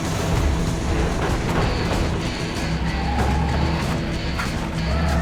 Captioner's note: buses thunking